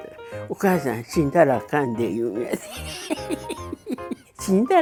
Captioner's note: laughs